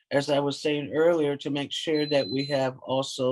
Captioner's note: alarm ringing